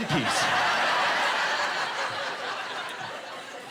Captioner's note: laughing